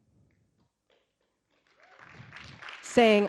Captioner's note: audience clapping